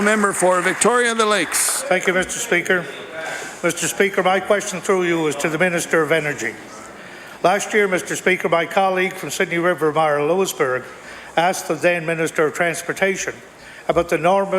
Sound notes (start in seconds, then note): 3.5 applause